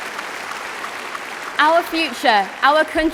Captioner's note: applause